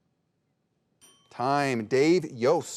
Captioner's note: bell ringing